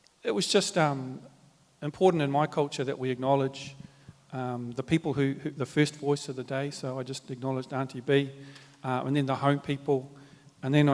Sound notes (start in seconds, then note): none